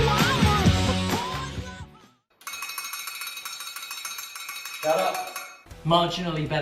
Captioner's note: sounds of cleepy clown doll